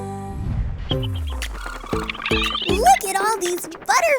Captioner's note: tweeting; pleasant music